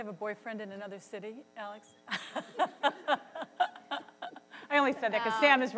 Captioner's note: laughs